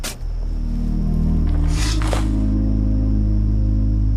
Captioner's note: shovel scraping